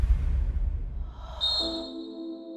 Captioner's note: whistle trills